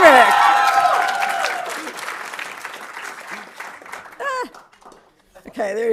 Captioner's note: audience cheering and applauding